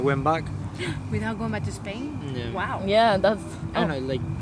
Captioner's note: gasp